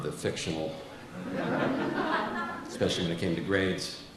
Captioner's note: audience laughs